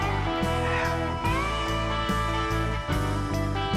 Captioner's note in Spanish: Ríe